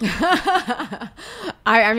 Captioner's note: laughs